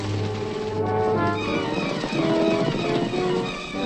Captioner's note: horses trotting